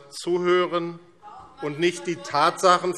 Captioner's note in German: Zurufe DIE LINKE